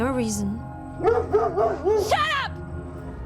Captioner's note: dog barking